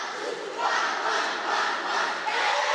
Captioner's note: children Playing